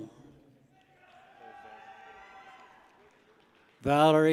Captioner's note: people cheer